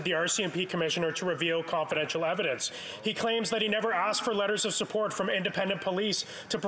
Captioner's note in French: voix de l'interprète